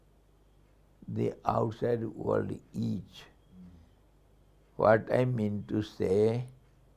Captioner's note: sanskrit